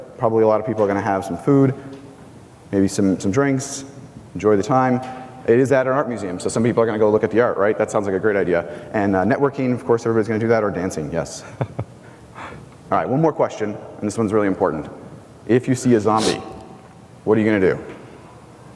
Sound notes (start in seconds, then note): 11.4 laughs